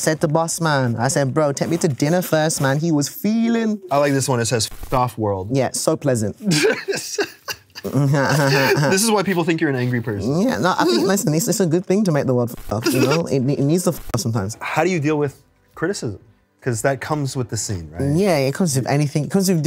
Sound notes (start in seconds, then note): 6.4 laughs